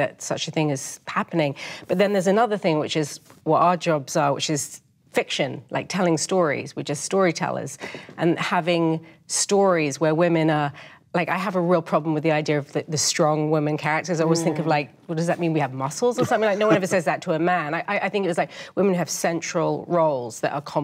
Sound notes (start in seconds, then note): 16.2 panelist chuckles